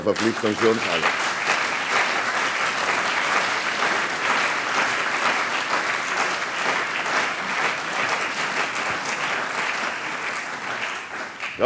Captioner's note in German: Beifall CDU und BÜNDNIS 90/DIE GRÜNEN, vereinzelt SPD und Freie Demokraten